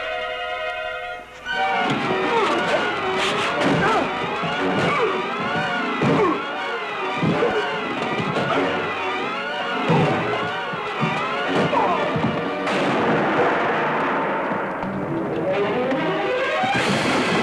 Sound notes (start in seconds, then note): 0.3 grunting; 3.1 exciting music; 11.0 gong banging